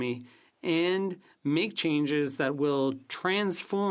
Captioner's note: speaking French